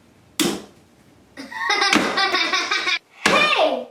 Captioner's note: Rosie laughing